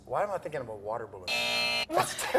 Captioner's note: buzzer